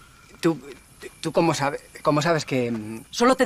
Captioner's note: stammering